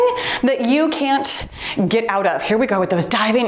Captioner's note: timer beeps